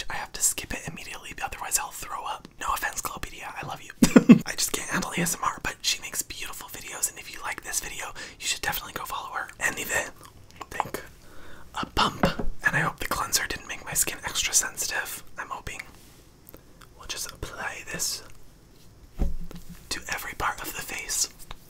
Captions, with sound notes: I have to skip it immediately, otherwise I'll throw up. No offense, glowopedia, I love you. (laughs) I just can't handle ASMR, but she makes beautiful videos, and if you like this video, you should definitely go follow her. Anyway. Take a pump, and I hope the cleanser didn't make my skin extra sensitive. I'm hoping. We'll just apply this to every part of the face.